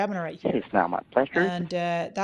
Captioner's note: murmurs